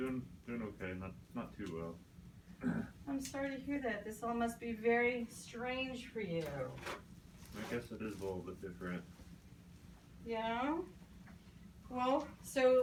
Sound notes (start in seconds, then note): 2.6 clears throat; 6.8 gloves pulled from box